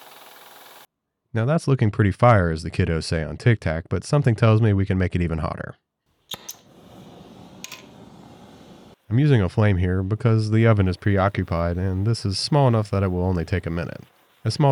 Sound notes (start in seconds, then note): 6.3 lighter clicks; 6.4 flame whooshing